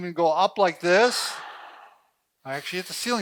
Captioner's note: exhales loudly